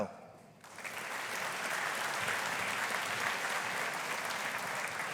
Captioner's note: audience applauding